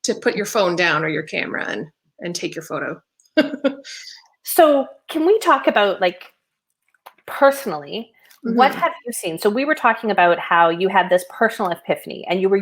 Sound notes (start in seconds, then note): 3.4 laughing